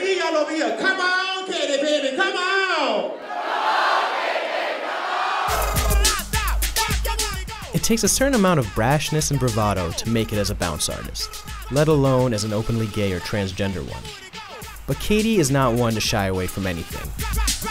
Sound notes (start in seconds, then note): 2.7 crowd; 5.6 bounce music; 17.5 bounce music